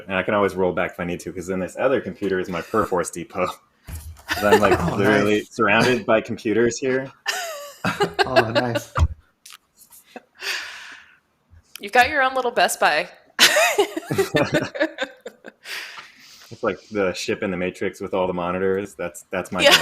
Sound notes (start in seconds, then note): 7.2 laughs; 13.4 laughter